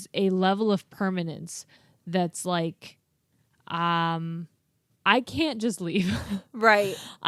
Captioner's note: laughs